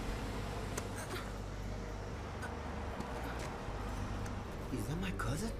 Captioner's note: Allegra gasping